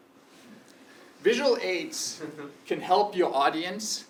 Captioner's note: laugh